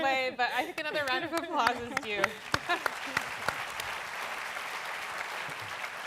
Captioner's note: laughter; applause